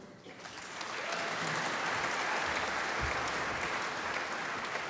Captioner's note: applause